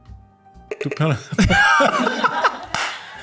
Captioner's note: laughter